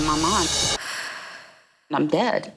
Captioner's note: gasp